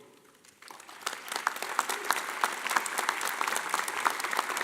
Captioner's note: audience applauding